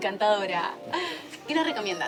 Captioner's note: soft Music Playing; laughing